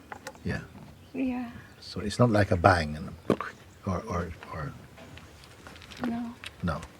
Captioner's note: makes sudden popping sound